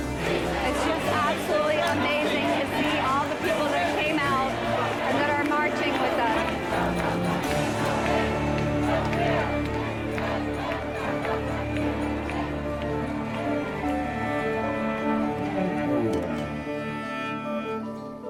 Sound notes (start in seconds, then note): 5.4 chanting